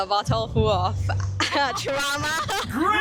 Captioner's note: nervous laugh